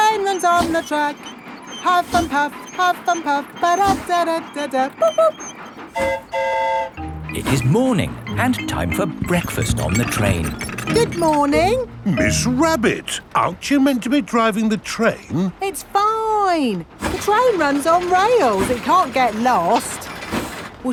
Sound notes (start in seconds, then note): 5.9 train whistle toots; 5.9 mimics train whistle